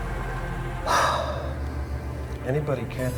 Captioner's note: sighs